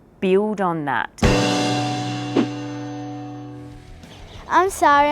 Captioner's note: loud gong